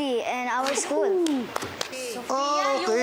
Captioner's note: claps